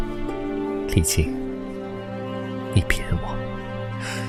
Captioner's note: sigh